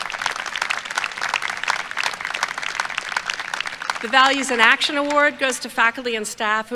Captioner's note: applause